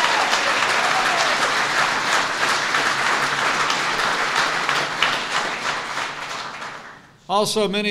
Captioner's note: applause